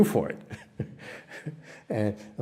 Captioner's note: laughter